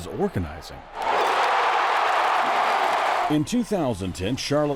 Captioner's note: crowd roaring